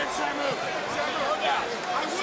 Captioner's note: crowd chatter